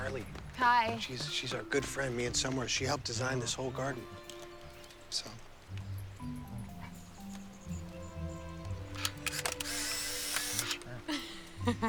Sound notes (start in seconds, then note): 8.9 camera whirring; 9.0 laughing